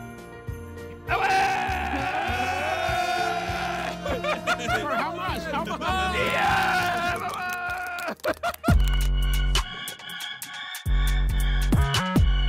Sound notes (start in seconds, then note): 1.2 all cheering and applauding